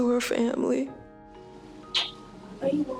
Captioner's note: kiss